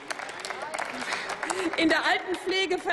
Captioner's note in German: Applaus